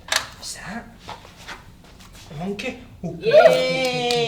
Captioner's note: monkey impression